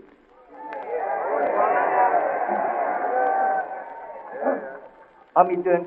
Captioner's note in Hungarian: éljenzés